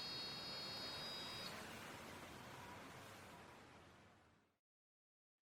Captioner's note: machine beeping